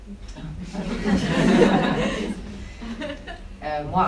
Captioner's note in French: rires